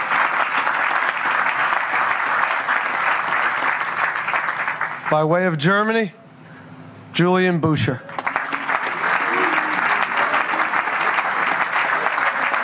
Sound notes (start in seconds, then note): 2.5 applause